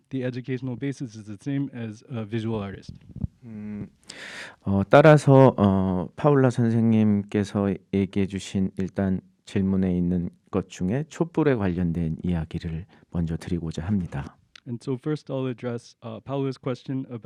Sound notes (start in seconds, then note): 4.9 speaking in Korean